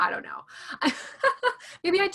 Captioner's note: laughing